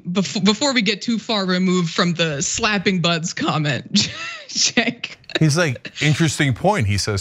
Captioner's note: laugh